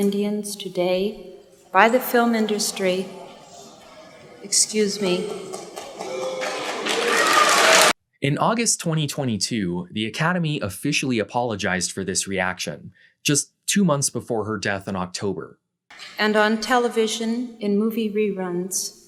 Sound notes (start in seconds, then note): 1.8 crowd mumbles and boos; 5.2 crowd boos and claps